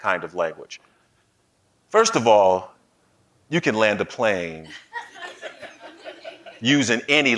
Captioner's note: laughing